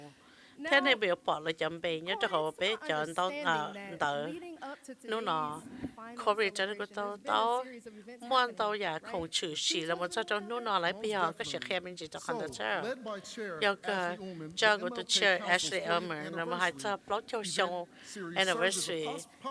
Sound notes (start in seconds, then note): none